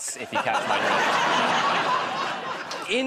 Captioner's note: laughter